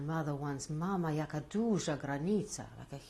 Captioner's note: non-english